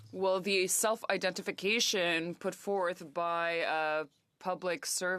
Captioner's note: speaking French